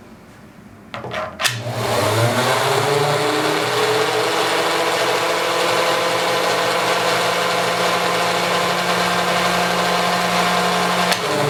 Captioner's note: whirring